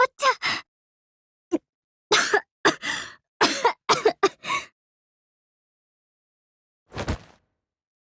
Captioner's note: coughing